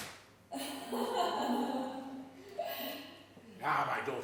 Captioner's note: laughing